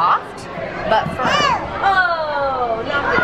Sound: screaming

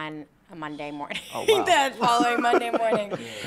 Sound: laughter

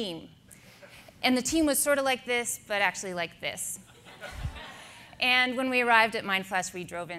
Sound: audience laughter

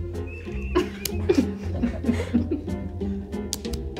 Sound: audience laughs

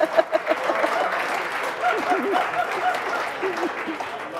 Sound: Dolores laughing; crowd cheering

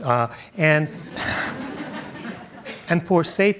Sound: audience chuckles

